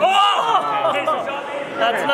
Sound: shouts

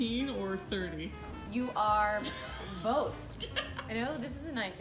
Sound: laughing

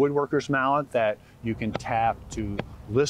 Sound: mallet tapping

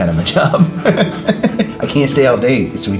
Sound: laughs

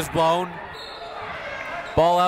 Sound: whistle

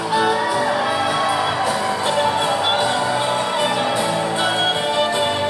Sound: wedding attendees cheering

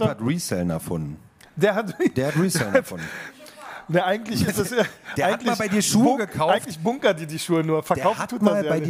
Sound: laughter

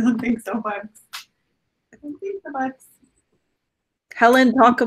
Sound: talking faintly in background

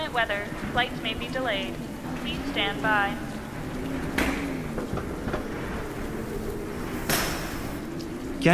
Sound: storm builds

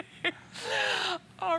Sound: laughter

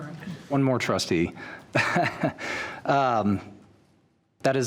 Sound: chuckles

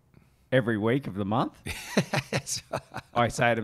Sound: chuckles

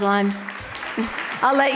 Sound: loud clapping

